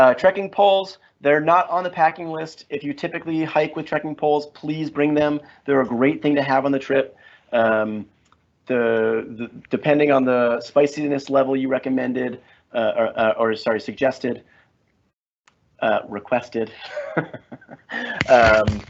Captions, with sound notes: Trekking poles, they're not on the packing list. If you typically hike with trekking poles, please bring them. They're a great thing to have on the trip. Depending on the spiciness level you recommended, or sorry, suggested, requested. (laughs)